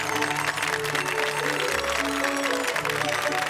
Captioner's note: audience claps; joyful music